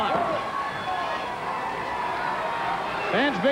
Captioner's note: crowd yelling